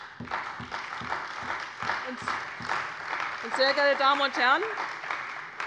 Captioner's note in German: Beifall bei der CDU und dem BÜNDNIS 90/DIE GRÜNEN